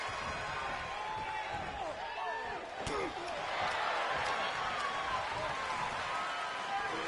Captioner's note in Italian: urlo